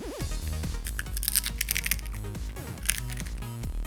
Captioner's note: crack crack again